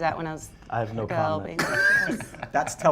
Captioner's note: laughs